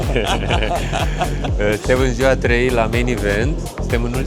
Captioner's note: laughs